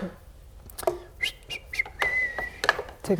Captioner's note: whistles